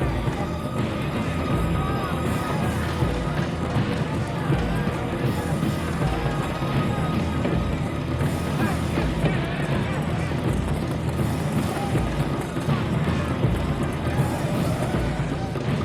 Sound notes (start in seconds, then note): 8.3 dramatic music continues; 8.3 group clamoring